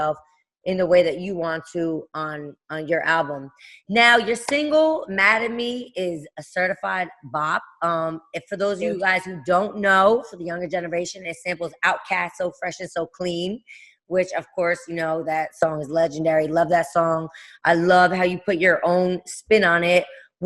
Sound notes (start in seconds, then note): none